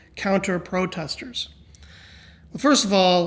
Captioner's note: sighs